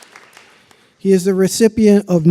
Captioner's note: applause